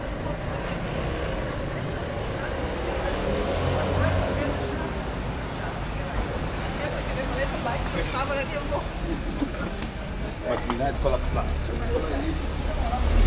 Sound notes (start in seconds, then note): 4.8 people chattering